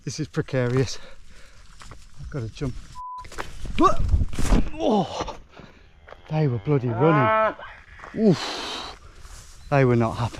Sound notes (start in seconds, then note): 2.9 beeps; 7.6 angry moo